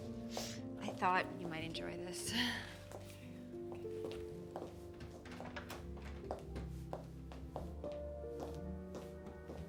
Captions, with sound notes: I thought you might enjoy this. [whispers] Okay.